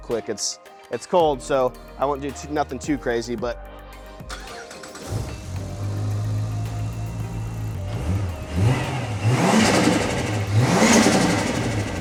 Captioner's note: engine Revving